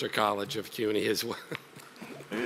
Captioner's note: chuckles